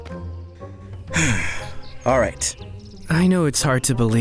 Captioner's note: sighs